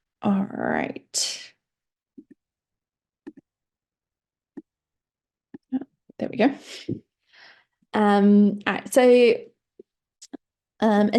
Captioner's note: pause